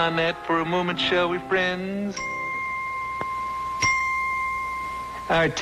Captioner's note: bell tinkling